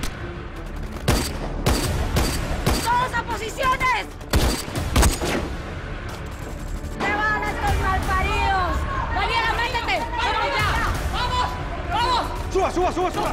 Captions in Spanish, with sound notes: [Disparos] - TODOS A POSICIONES. [Disparos] - ¡MATEN A ESTOS MALPARIDOS! ¡DANIELA, MÉTETE! ¡YA! - ¡VAMOS! ¡VAMOS!